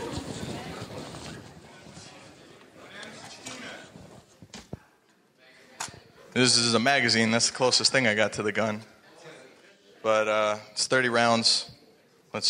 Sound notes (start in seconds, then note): 2.4 audience members chattering